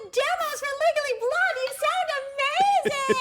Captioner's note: laughter